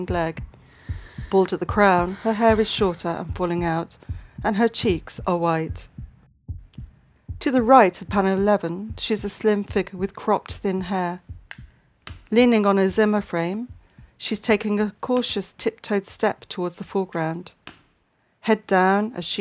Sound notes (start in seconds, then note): 12.0 heartbeat fades out, clacking crutches fade in